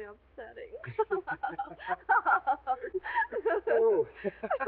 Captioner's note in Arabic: كلاهما يضحك